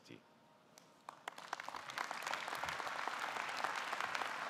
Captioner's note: audience clapping